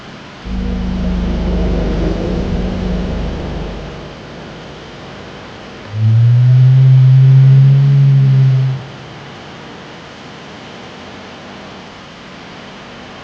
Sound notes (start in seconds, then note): 4.4 dramatic drumbeat music; 5.8 dinosaur growling